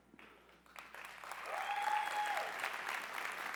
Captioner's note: cheering